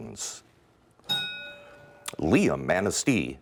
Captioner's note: ding